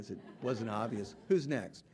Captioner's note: audience laughing